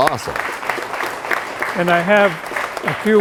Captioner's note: applause